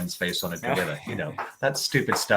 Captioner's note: laughing